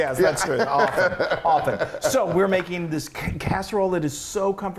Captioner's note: laugh